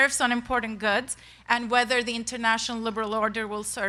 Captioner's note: none